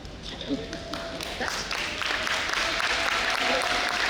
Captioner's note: audience applauding